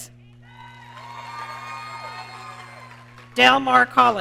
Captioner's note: audience cheering